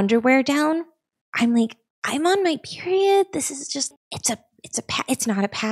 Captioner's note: stammers